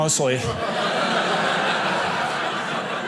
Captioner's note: audience laughing